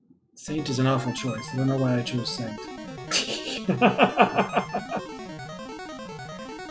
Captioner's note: laughs